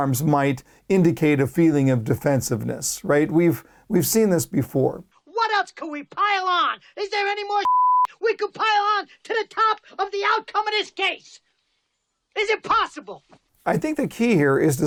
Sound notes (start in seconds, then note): 7.6 beep